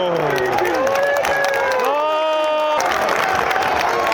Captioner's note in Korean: 응원의 박수를 보내는 관중들